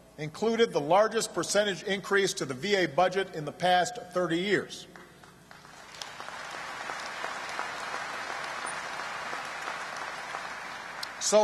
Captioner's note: applause